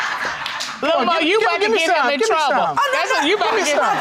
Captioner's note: laughing